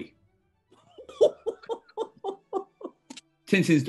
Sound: chortling

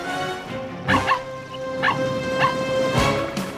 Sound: barking

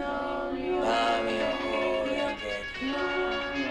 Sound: phone rings

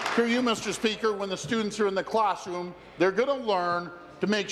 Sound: applause

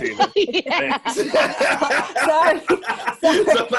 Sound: laughing

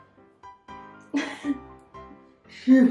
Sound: laughs

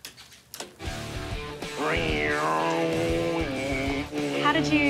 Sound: mimicking motorcycle engine

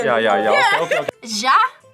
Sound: laughs

